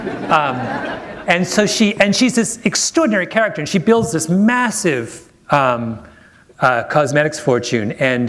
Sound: laughter

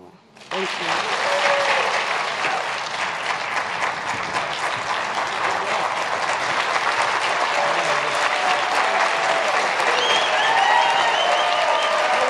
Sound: applause

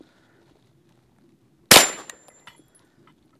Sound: bang

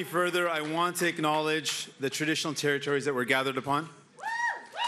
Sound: cheering

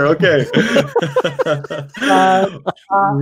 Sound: laughs

